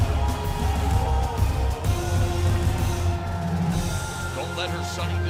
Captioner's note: crowd cheering